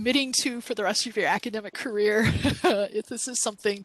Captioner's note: laughs